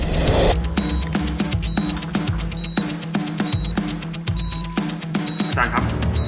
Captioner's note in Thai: เสียงเครื่องตรวจสัญญาณชีพจร